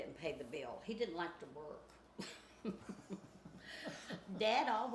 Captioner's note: chuckles